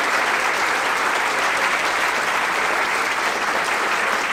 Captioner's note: applause